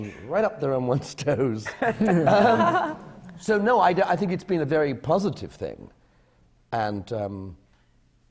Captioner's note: laugh